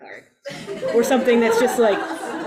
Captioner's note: audience laughs